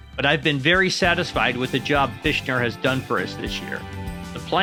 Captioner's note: none